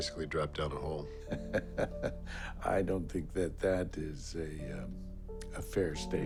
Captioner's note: laughs